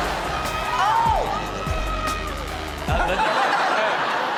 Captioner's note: kid screaming; audience laughs